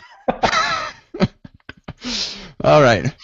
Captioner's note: laughter